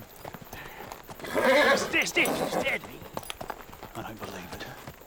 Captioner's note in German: Pferd wiehert